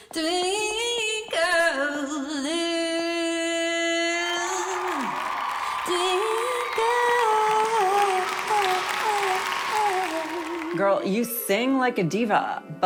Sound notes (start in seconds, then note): 7.2 audience claps